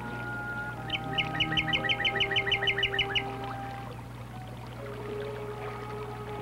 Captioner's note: bird chirping